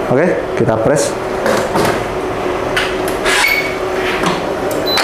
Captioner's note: press machine sound; beeping sound